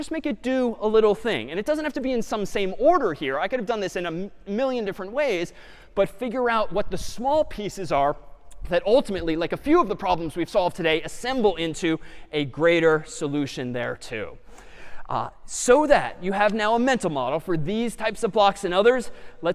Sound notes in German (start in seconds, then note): none